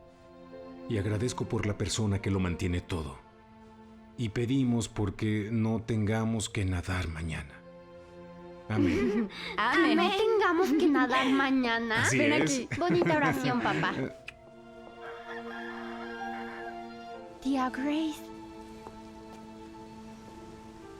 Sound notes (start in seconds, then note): 14.9 rooster crows